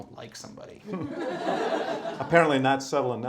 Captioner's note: laughter